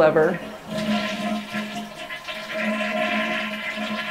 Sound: toilet flushing

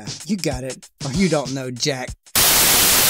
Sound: static

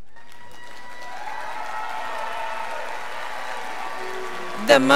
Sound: crowd applauding

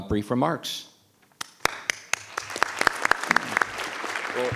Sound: audience applauding

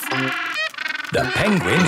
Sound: honking

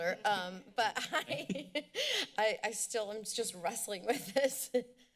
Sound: laughter

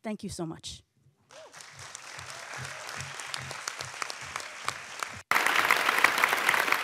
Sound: audience applauding; audience cheering

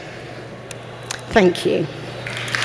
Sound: cheering and Applause

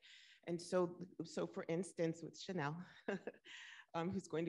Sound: laughs

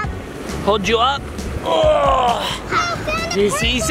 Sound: grunting

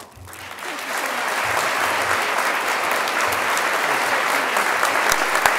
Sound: crowd applause

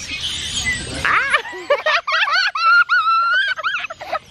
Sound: family laughs

